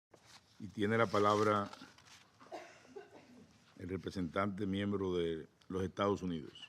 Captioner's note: in Spanish